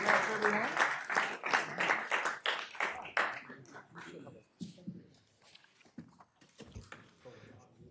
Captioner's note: applause